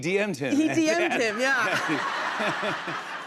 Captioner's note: laughter